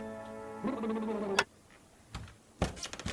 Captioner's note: lips chattering; TV clicks; wood creaking